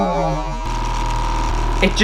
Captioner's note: loud Motor Sounds